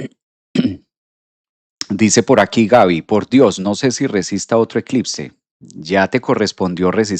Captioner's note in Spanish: carraspeo